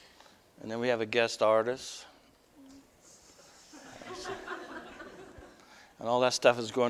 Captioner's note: audience: Laughter